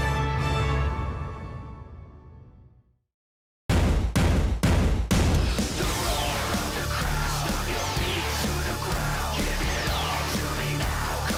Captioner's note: crowd cheering